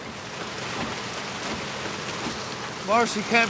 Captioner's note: rain falling